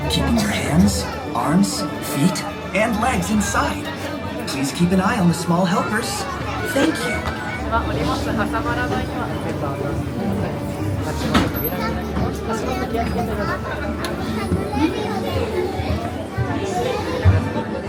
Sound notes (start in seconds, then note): 8.6 people speaking Japanese